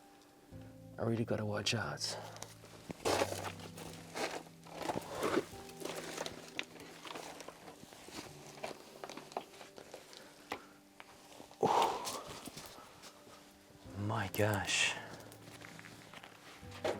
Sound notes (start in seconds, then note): 5.9 sigh